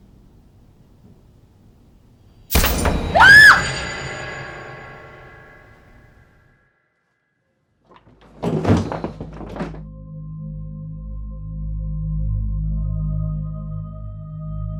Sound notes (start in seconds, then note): 2.3 startling music; 3.1 Shelby screams; 8.3 door thuds; 12.0 eerie music